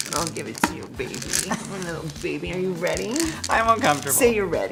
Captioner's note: putting on a voice